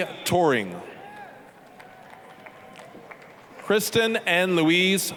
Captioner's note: applause, cheering